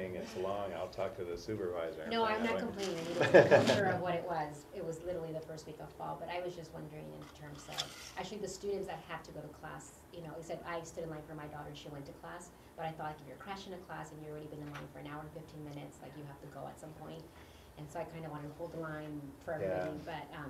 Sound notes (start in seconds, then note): 3.0 laugh